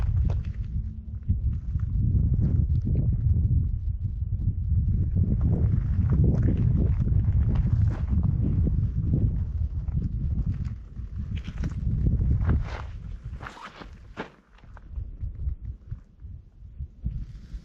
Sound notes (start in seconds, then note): 0.0 wind blowing; 14.6 wind blowing